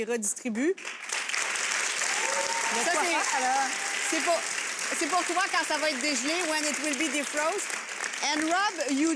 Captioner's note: audience applauds and cheers